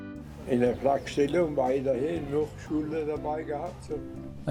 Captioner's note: speaking German